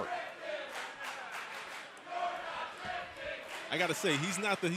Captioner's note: crowd cheering